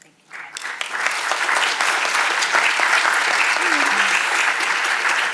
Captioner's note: audience applauding